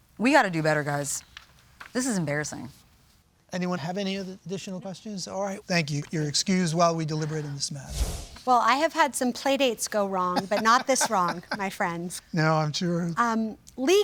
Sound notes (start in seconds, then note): 7.8 transition whooshes; 10.3 laughs